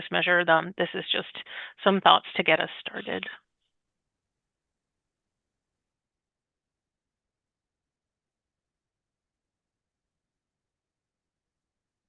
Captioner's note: pause